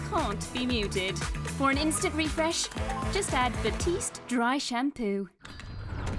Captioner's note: earthquake sound